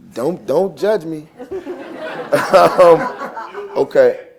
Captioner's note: laughter